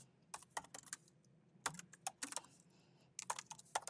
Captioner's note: keyboard clanking